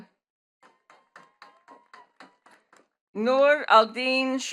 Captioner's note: attendees clapping